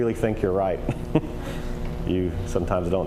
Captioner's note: chuckling